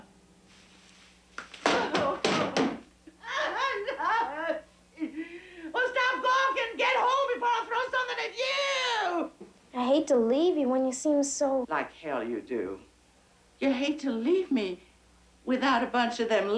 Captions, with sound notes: (plant thudding) (Mary Tom crying) Well stop gawkin'! Get home before I throw somethin' at you! - I hate to leave you when you seem so- - Like, hell you do. You hate to leave me without a bunch of them